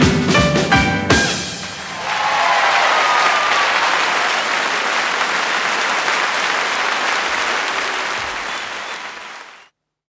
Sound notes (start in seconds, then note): 1.6 audience cheers